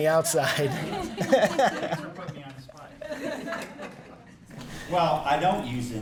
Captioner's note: laughing